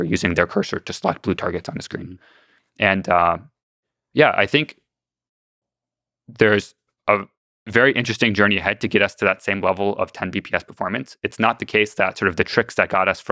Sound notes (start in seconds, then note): none